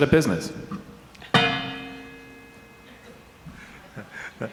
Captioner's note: mic clanging; laughing